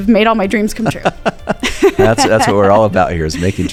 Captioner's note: laughing